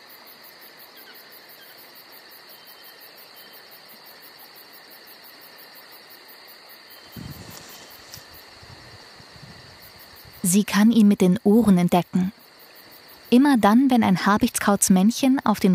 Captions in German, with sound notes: (Grillenzirpen) Sie kann ihn mit den Ohren entdecken. Immer dann, wenn ein Habichtskauz-Männchen